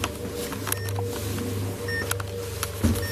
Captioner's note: beeping